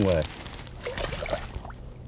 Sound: splash

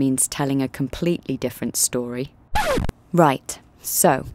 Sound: record scratches

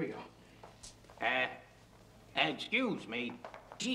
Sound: imitating Peter Falk

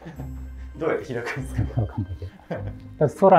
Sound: laughing

